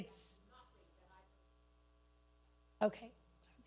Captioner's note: speaking away from mic